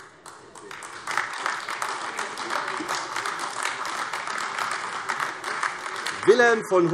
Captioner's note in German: Beifall AfD